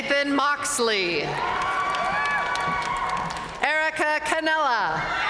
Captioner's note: audience cheering and applauding